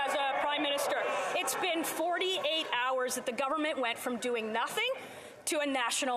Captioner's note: yelling